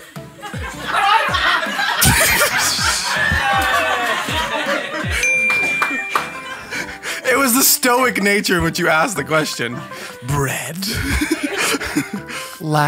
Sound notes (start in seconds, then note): 0.4 audience laughing; 5.0 bells dings; 10.8 laughs